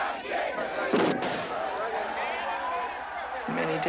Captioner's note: gunshot